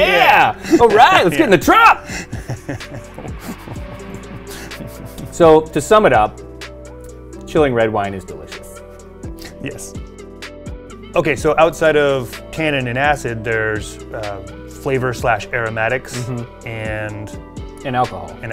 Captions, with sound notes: - Yeah! All right. Let's get in the truck. (laughs lightly) So, to sum it up: Chilling red wine is delicious. - Yes. Okay, so outside of tannin and acid, there's a flavor/aromatics, and... - And alcohol.